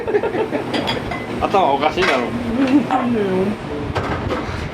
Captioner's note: laughs